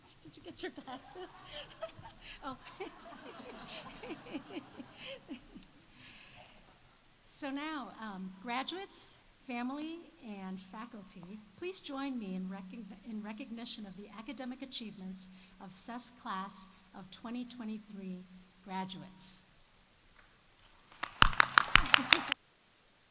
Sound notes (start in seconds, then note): 0.4 audience laughs; 20.9 audience applauding